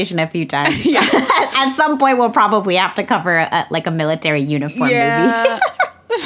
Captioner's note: both laugh